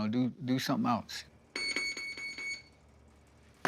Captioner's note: electric signal beeps